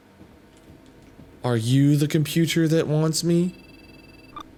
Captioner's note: computer Beeping